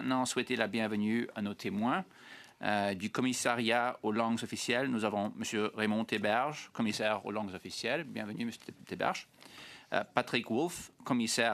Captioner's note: speaking French